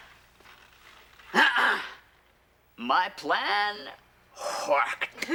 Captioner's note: clears throat